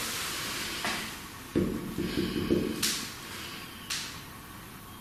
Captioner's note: knocking